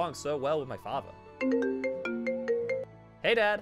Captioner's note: phone ringing